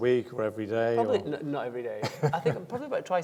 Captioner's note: laughing